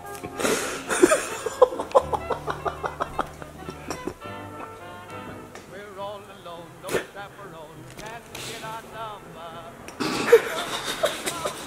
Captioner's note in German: Gelächter